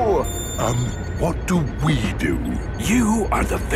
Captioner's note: whispering